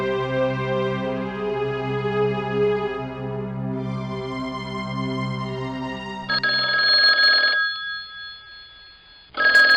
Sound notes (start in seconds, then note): 6.3 phone ringing